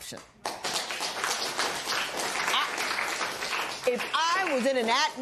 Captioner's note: applause